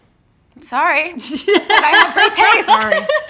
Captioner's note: laughing